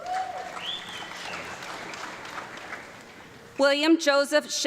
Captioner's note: audience clapping